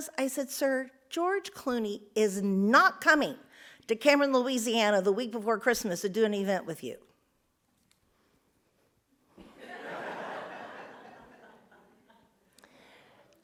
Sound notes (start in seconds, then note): 9.5 audience laughs